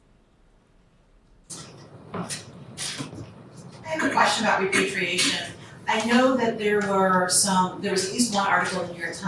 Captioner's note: audience member speaking